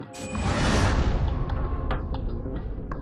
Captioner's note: swoosh